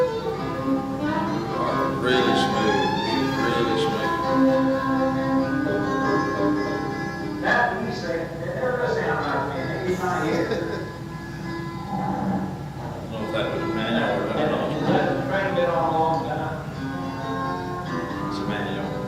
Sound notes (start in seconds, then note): 8.6 man speaking on faint audio recording; 11.4 chuckles